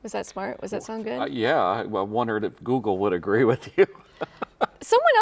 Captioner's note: laughs